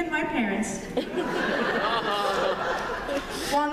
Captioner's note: laughter